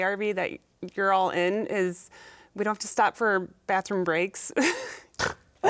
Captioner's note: laughing